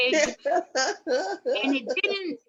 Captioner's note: laughs